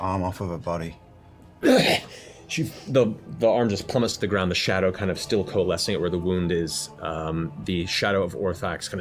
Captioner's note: grunts